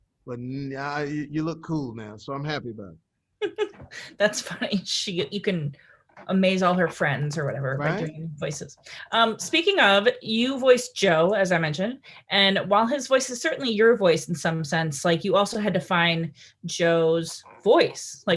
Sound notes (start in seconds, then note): 3.4 laughter